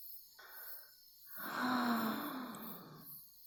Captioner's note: A long, very contented sigh